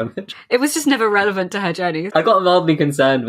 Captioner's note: laughing